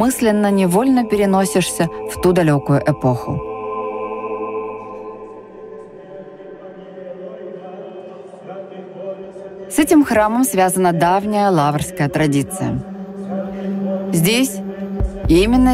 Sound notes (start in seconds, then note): 4.6 prayer sounds